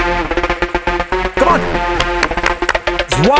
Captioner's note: Clapping